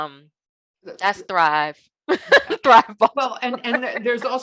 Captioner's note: laughing